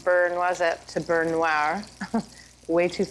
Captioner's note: chuckles